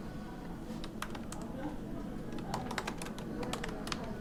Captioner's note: typing